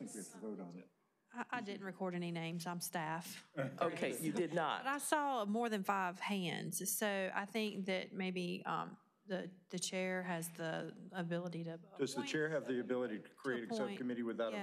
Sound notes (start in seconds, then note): 3.6 laughter